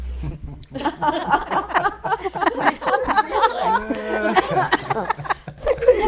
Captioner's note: laughs